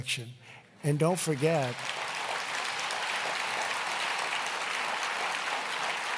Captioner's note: applause